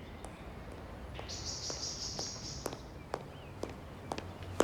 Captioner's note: birds chirping